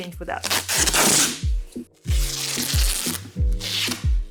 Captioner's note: tape screeching